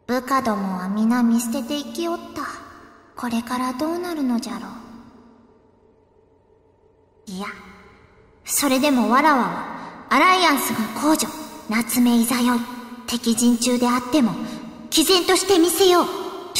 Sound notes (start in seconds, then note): 5.4 silence